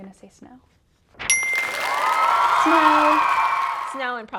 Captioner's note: chime and audience cheering